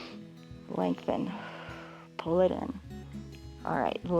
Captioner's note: exhales; inhales